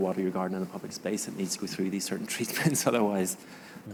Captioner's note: chuckles